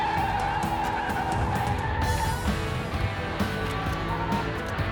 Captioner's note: tires screeching